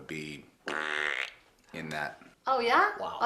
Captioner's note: mouth effects